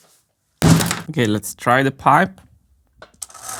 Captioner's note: whack